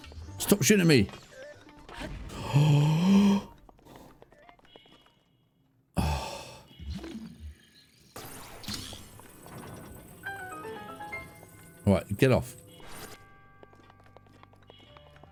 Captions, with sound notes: Stop shooting at me! (gasps) (sighs) All right, get off.